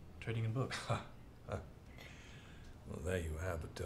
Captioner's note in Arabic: يضحك